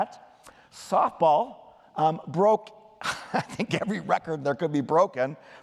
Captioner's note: laughter